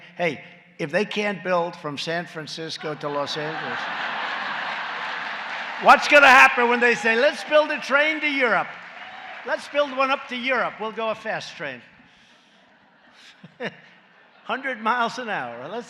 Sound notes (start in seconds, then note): 4.1 laughter and applause; 13.2 laughs